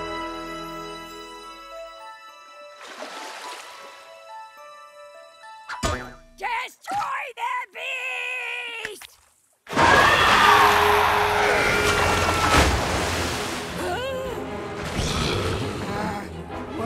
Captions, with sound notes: Destroy the beast! [monster screeches] [Bomb yells] [gasps] -[growls] -Uh, whoops.